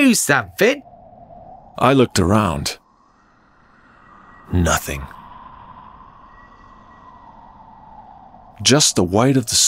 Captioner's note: wind